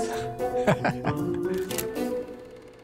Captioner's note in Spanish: risas